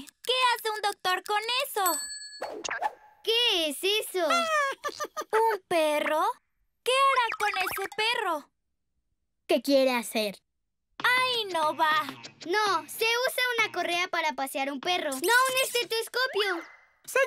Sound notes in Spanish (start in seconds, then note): 4.6 risas